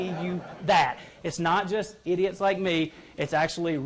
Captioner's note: laughter